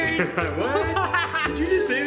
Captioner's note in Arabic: يضحك